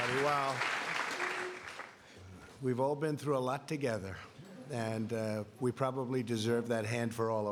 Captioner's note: applause